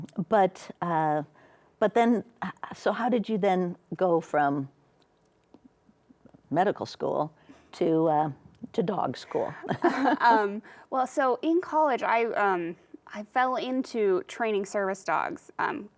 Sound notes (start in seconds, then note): 9.3 chuckles